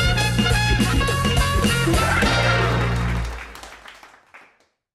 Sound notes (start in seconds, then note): 0.0 lively music; 1.9 audience applauding